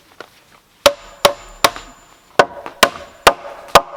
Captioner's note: hammering